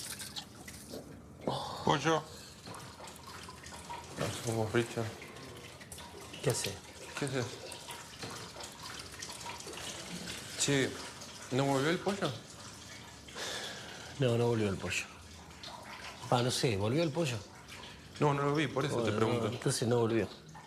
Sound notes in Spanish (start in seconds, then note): 1.4 Ricardo suspira; 13.3 suspira